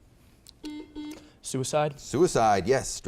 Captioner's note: buzzer beeps